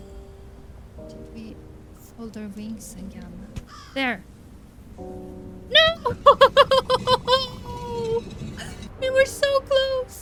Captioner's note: laughs